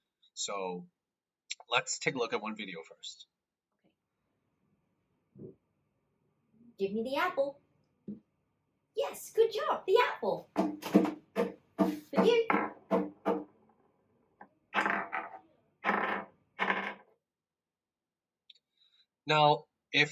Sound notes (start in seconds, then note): 11.9 student banging table